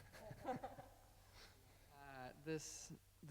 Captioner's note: laughing